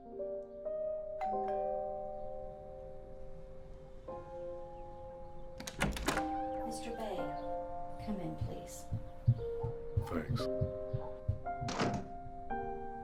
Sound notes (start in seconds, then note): 1.2 doorbell rings